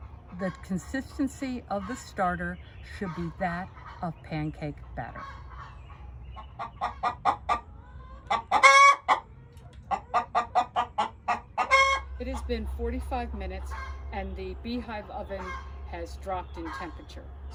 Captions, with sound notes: The consistency of the starter should be that of pancake batter. (chicken clucking) It had been 45 minutes and the beehive oven has dropped in temperature